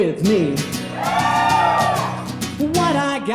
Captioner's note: audience cheering